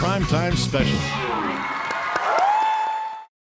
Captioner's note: audience cheering; audience applauding